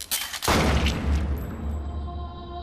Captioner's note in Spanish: Disparo